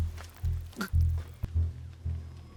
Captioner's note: gasping